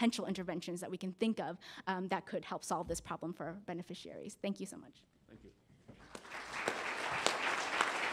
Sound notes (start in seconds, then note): 6.0 applause